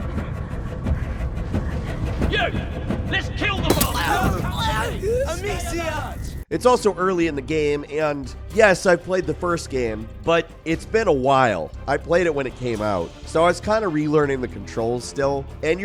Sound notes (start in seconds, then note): 0.3 tense music; 3.7 gagging